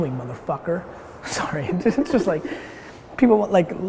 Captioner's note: laughs